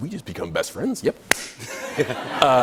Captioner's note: laughter